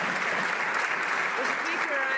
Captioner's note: some Applause